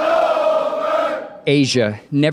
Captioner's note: soldiers sounding-off